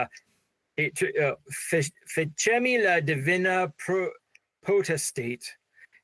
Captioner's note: speaking in foreign language